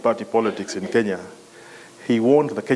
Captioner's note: cough